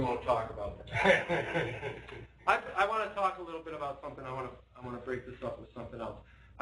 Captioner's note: laughter